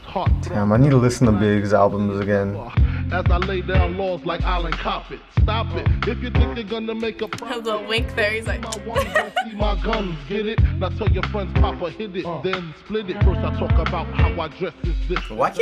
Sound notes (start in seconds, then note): 8.6 laughs; 8.9 clicks